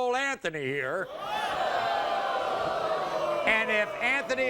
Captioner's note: audience boos